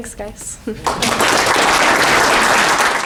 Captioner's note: applause